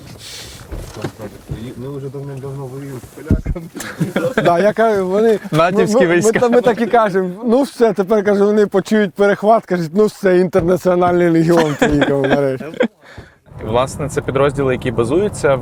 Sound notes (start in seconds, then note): 1.5 mockingly; 3.3 laughs